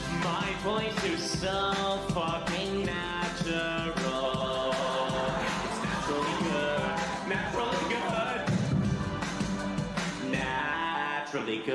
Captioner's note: laugh